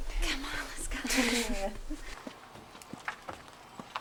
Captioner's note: silent car moving